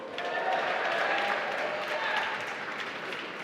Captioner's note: applause